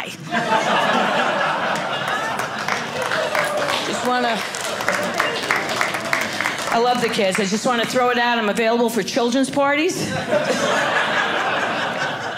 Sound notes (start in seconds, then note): 0.2 audience laughing; 5.1 audience clapping; 10.0 audience laughing